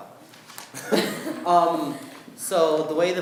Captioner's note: laughing